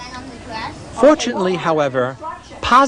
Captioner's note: background talk